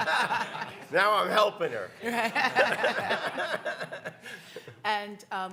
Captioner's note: panelists laugh; panelists laugh